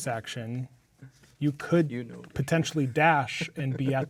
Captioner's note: speaking quietly; laughing